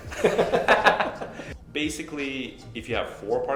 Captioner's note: both laugh